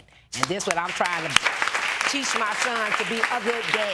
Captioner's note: audience applauds